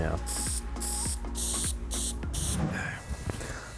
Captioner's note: can hissing